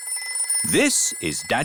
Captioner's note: phone rings